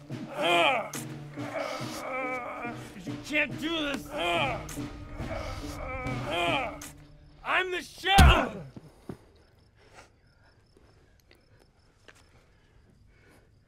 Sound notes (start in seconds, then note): 0.4 grunts; 5.3 grunts; 9.7 Jonathan grunts; 11.6 crickets chirping